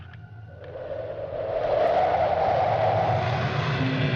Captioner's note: wind howling